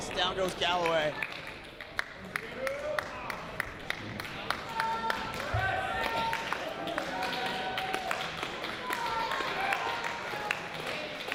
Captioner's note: applause